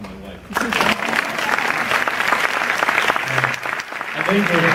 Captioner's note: audience applause